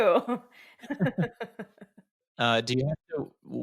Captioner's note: both laughing